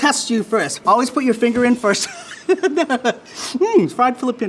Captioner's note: laughs